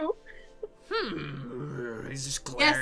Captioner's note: grumbling noises